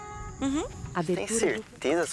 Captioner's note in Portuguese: Ruídos de mata